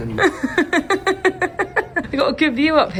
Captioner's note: laughs